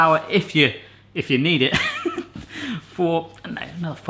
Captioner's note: laughing